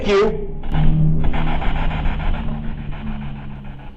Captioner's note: static buzzing